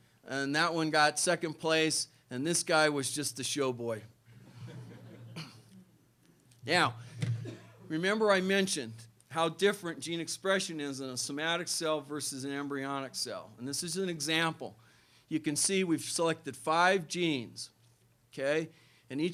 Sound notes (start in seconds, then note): 4.3 laughter